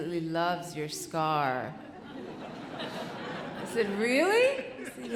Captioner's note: audience laughing